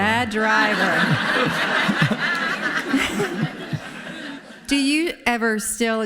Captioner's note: audience laughing